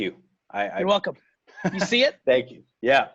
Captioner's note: laughing